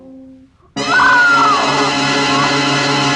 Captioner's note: barbra screams